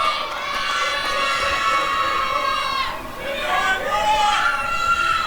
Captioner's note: applause and cheering